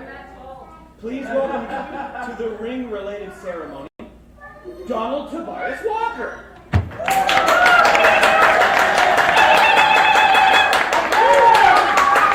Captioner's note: crowd cheers